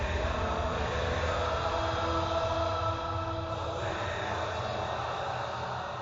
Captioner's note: singers and crowd chant